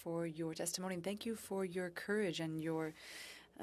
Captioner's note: speaking French